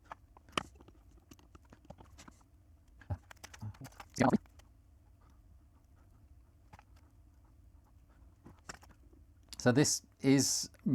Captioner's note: silence